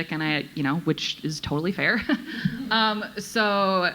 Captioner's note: chuckles